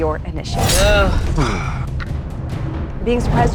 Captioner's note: huffs